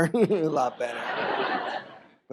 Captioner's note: audience laughs